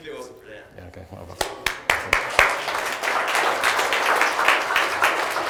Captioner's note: audience claps